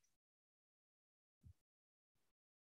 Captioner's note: no speech